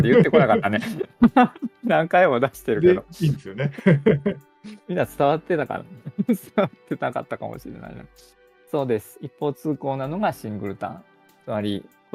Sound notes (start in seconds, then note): 0.0 laughs; 3.2 laughter; 8.9 chuckles